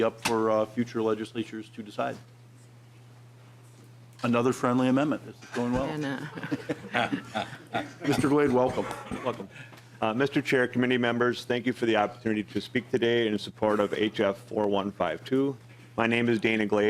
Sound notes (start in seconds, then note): 11.6 laughing